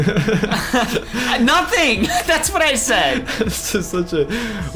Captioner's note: laughs